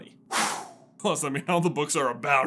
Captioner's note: exhales